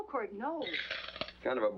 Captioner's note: coins clattering into cup